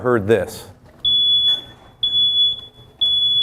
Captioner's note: beeping